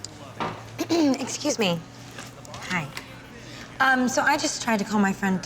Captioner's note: clears throat